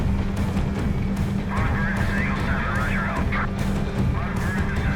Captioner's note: radio dispatch chatter